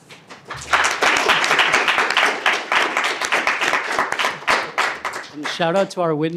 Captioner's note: applause